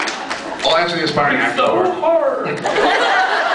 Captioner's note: laughs, cheers; high-pitched voice; laughs